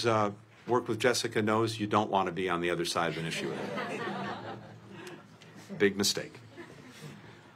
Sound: laughter

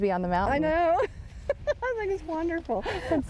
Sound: laughing

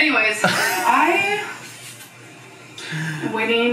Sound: laughs

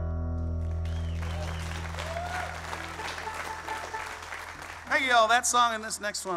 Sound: audience applauds

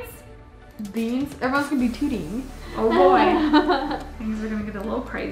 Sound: laughs

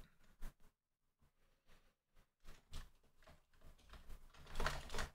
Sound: typing

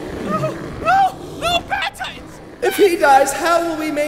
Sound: whimpering

